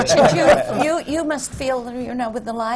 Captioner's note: laughter